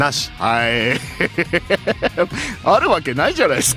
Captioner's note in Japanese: 笑い